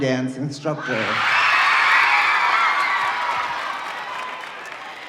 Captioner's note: audience cheering